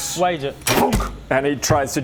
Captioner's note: thunk!